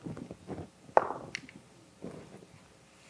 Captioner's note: dice rolling